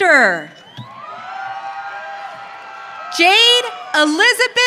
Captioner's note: audience cheering